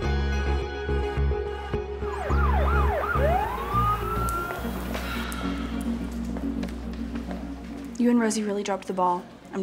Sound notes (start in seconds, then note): 2.0 sirens wailing